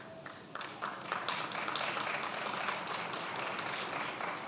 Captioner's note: attendees applauding